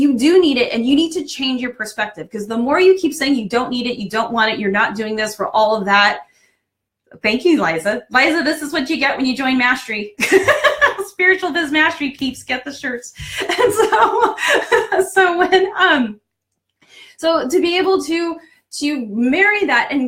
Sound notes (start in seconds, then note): 9.9 laughing; 13.2 laughing